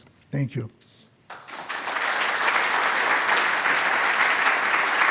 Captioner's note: applause